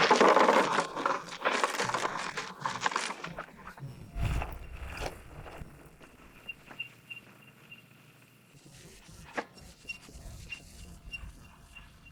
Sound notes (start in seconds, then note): 4.0 crash of shellfish